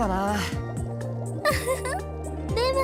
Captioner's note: giggle